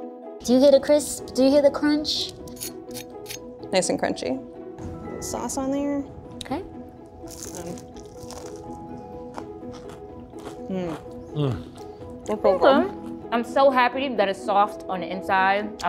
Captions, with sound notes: - Do you hear the crisp? Do you hear the crunch? - [knife scraping] Nice and crunchy. Sauce on there. - Okay. [tots crunching] - Mm. - Mm. - Pretty good. - They're pretty good. I'm so happy that it's soft on the inside.